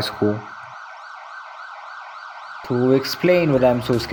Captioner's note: sirens continue